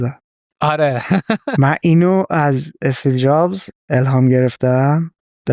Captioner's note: laughs